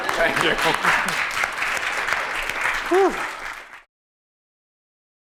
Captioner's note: applause